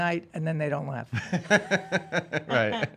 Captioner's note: laughs